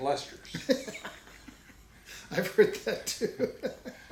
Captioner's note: laughs